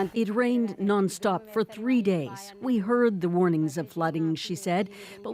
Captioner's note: speaking alternate language